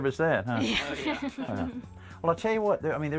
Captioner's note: laugh